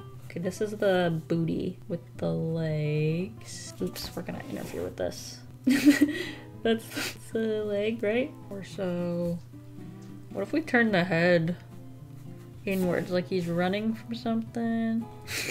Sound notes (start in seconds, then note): 5.7 laughs; 15.3 laughs